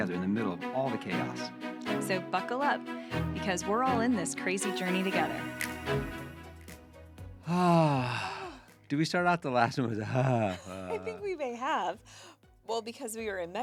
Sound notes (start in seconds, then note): 10.0 laughing